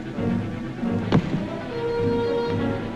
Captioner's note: door bangs